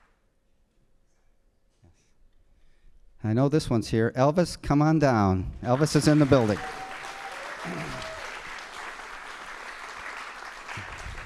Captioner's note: applause